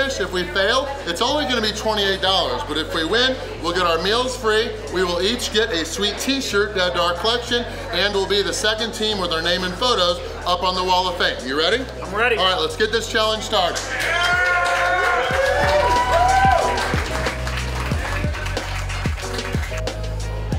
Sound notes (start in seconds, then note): 13.8 cheering